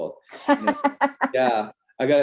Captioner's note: laughter